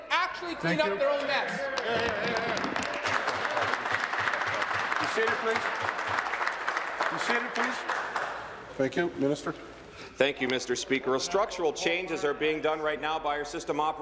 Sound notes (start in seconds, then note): 6.8 applause